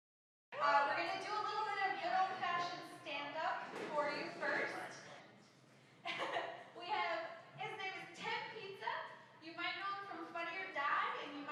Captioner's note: laughs